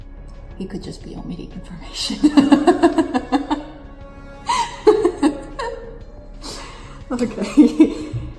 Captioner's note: laughs; laughs